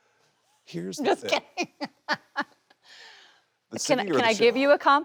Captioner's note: Kristen laughing